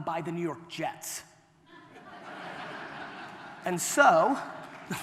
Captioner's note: audience laughter